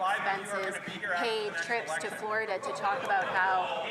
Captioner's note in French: voix de l'interprète